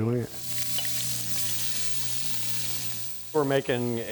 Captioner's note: food sizzles